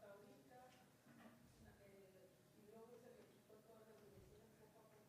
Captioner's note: woman speaks in foreign language